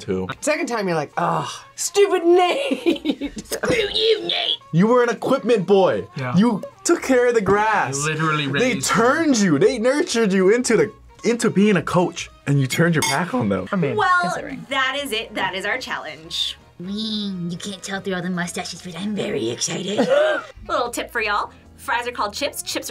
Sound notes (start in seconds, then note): 2.5 laughs; 16.6 raspy